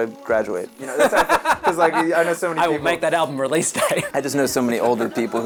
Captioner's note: laughs